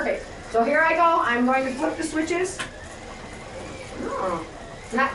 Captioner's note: switches flip